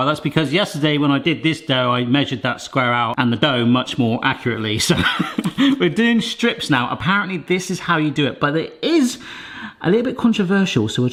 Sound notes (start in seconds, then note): 4.8 laughs